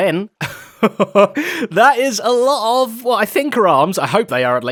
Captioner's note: laughs